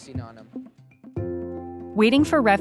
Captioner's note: archival news audio